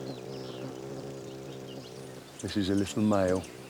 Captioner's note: wings hum